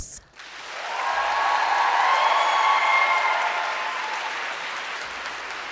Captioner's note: audience cheering and applauding